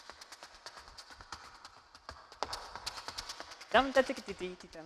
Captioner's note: none